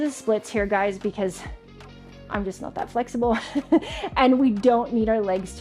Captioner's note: laughs